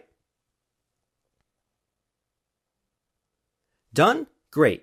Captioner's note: pause three seconds